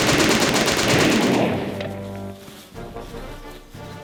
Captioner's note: gunfire rattling; gunshot bangs